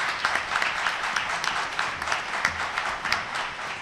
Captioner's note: applause